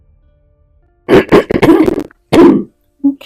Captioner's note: starts coughing